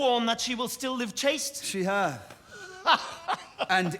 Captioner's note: laughs